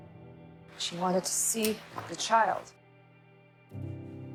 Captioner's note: voiceover